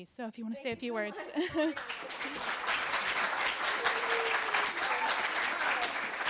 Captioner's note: applause